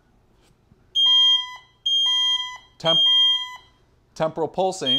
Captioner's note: loud beeping